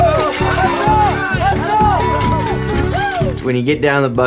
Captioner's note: people cheering